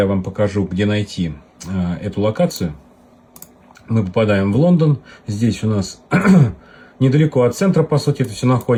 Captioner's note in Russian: откашливается